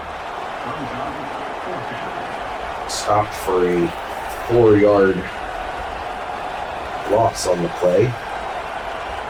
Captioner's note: crowd Noises